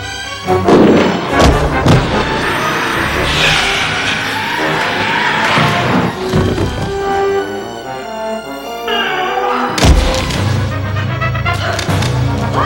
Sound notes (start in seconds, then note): 0.6 arrows thudding; 3.7 tense orchestral music; 9.8 body thudding